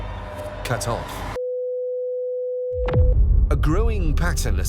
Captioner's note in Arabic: صوت صفير ثابت